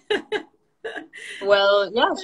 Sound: laughing

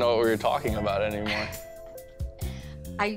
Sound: laughs

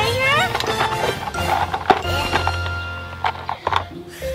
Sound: tools rattling

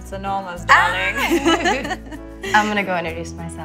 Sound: laughing

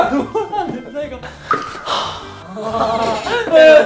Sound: sigh

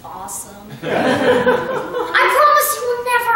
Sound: laughter

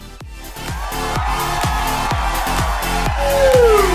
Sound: audience cheering

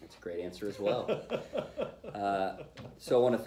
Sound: laughter

